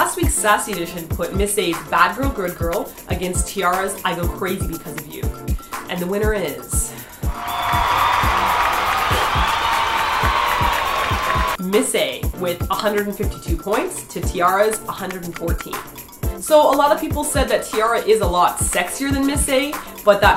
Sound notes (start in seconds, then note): 7.3 cheers